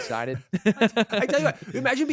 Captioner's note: both laughing